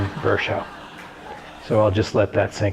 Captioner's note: audience laughter